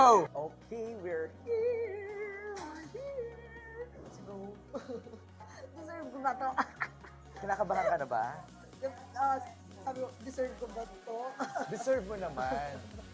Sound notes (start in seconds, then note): 6.2 chuckles; 8.7 stammers